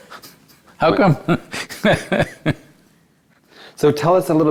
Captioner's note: laughs